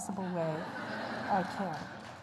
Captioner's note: laughter